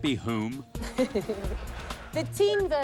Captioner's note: laughter